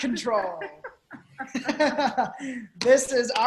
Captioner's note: both laughing